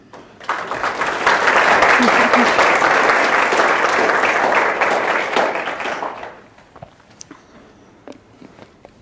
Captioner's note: applause